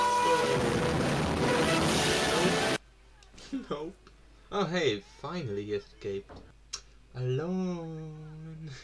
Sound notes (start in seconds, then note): 0.0 extremely loud music playing; 2.7 silence at last